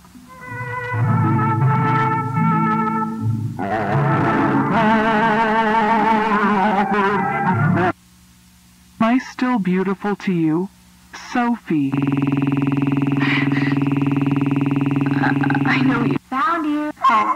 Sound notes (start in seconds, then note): 3.8 distorted operatic singing; 11.9 distorted audio artifacts; 13.2 Sophie gasps; 17.2 donkey brays; 17.2 screeching